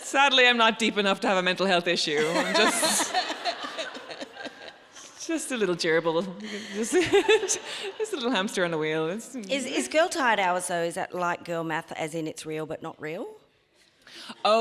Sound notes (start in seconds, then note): 6.6 laughs